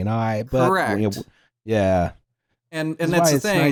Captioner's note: stammers